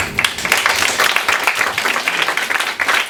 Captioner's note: clapping